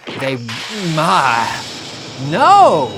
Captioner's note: blood gushing